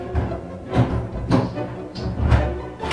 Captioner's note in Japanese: ガチャガチャ・・・; ドアのドアノブの音